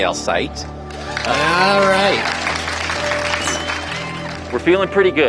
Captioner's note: applause